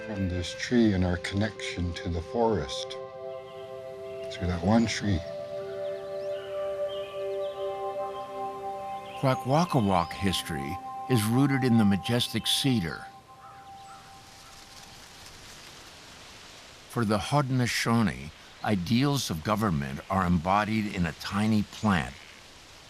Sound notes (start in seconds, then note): 2.9 birds calling; 13.4 corn stalks rustling